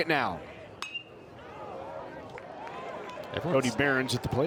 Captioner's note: bat dings